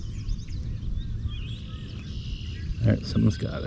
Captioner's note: birds chirping